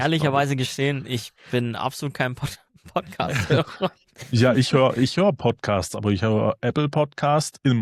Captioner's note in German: gelächter